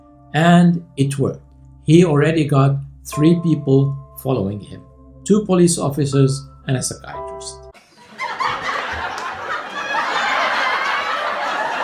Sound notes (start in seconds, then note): 7.7 laughter